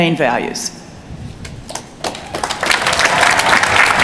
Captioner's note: applause